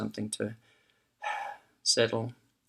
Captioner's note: takes a breath and exhales